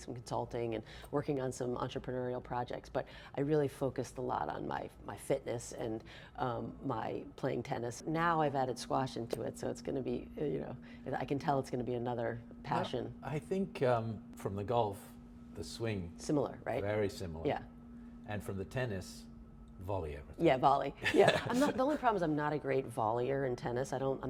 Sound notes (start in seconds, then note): 21.0 laughs